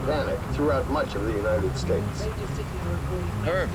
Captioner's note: overlapping radio walla&